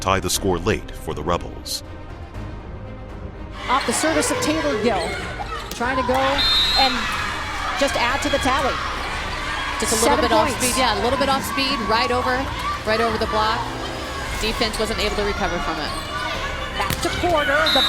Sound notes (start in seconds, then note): 3.5 voiceover; 6.2 whistle blows; 10.9 voiceover; 16.4 voiceover